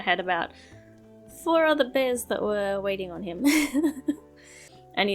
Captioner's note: laughs